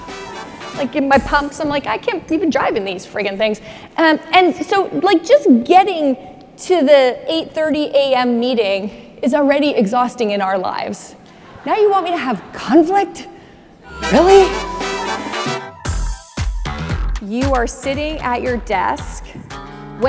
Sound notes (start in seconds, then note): 10.9 audience laughing; 13.8 energetic music